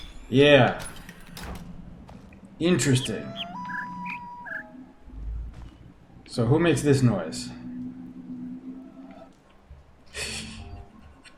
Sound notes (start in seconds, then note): 2.8 bird chirps five notes; 2.9 coyote howls ˩˧˥˥ ˧; 9.3 laughs softly